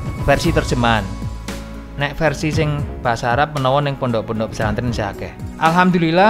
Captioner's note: Arabic